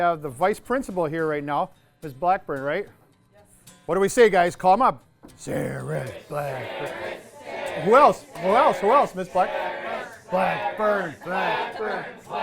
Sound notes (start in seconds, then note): 6.2 class chanting Sarus/Blackburn; 10.0 chanting Sarus/Blackburn